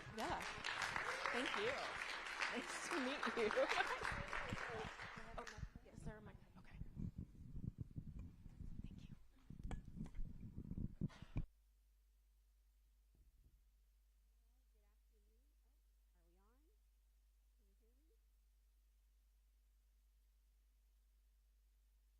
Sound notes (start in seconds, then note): 5.9 applause